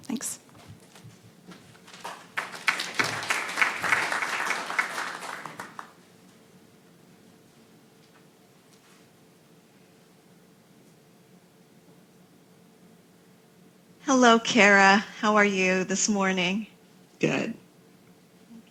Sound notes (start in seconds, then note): 3.4 applause